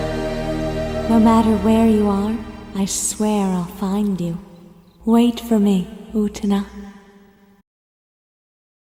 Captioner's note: Anthy's English Voice